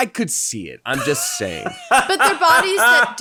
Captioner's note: laughing loudly